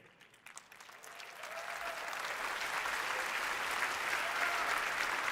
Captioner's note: audience cheering and applauding